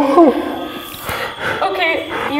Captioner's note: gasps